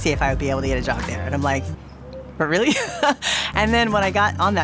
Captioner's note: laughing